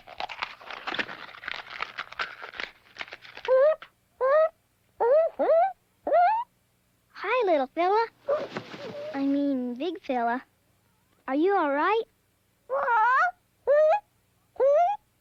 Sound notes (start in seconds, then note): 0.0 cracking; 3.5 bird chirps; 12.7 bird squawks